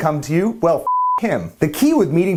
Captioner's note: beeping